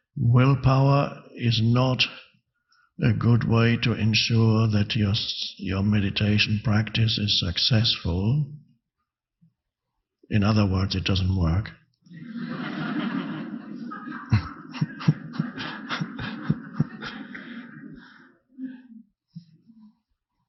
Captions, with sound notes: Willpower is not a good way to ensure that your meditation practice is successful. In other words, it doesn't work. (audience laughing) (Eckhart laughing)